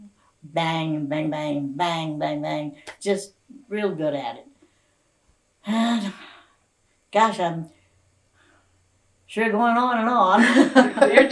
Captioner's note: laughter